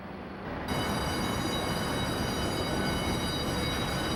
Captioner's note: alarm